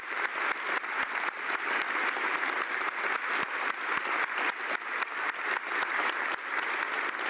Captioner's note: applause